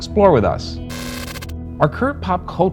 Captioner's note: static crackles